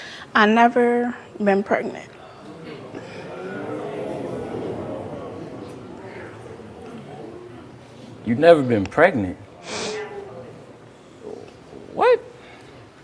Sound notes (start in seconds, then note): 0.0 breathes deeply; 2.2 audience muttering; 9.6 sniffles